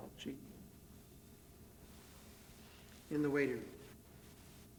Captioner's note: none